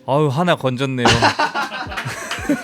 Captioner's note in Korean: 웃음